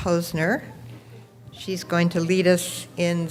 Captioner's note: none